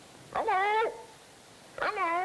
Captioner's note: parrot talking